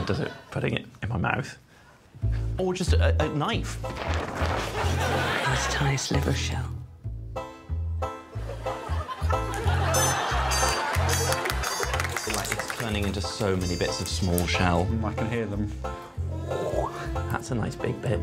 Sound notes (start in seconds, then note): 10.4 audience laughing